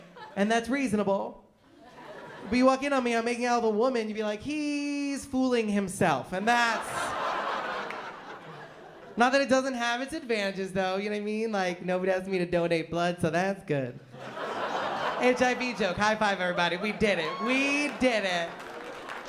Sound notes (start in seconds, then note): 6.6 laughter; 14.1 laughter